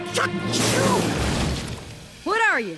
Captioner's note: crash